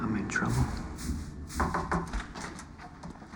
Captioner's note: knocking